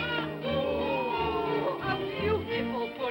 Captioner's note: excited vocal sounds